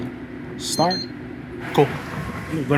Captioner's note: machine bleeps